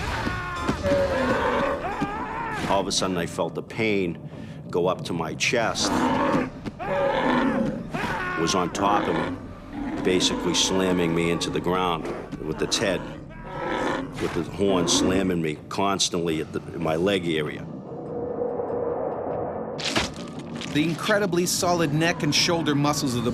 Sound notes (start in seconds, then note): 0.0 screaming; 7.8 screaming; 21.2 voiceover